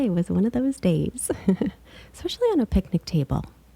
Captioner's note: laughing